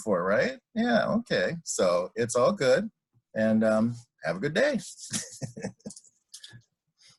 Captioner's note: laughs